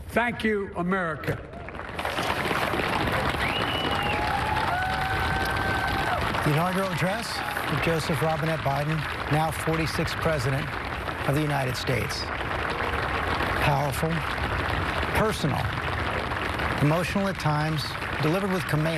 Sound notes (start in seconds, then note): 8.1 cheers and applause